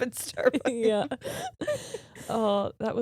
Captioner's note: laughing